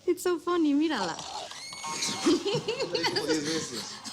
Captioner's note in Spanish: Grito; Risas